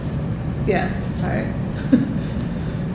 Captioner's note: laughing